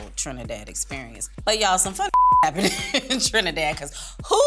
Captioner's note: beep